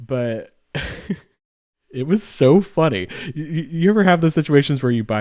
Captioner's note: laughs